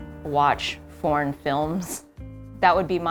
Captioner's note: none